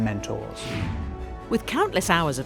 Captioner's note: air whooshing